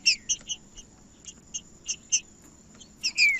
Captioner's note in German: trinca ferro cantando